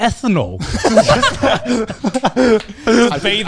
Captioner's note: laughs loudly